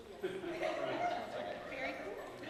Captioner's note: laughter